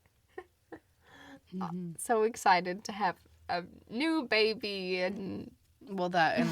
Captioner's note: laughs